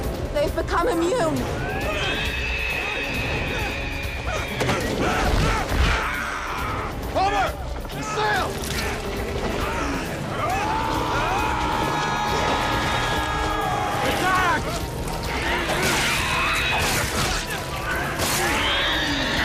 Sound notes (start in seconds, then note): 3.3 creatures screeching; 4.8 Christos screaming; 12.4 men screaming